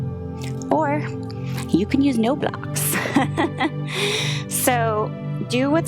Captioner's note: laughs